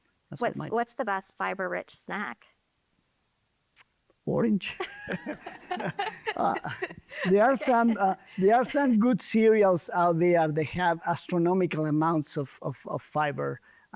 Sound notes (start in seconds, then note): 4.7 both laughing